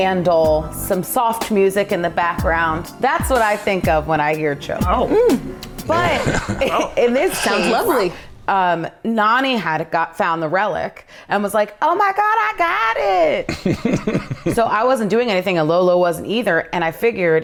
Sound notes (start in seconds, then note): 5.8 guys chuckling; 13.5 laughing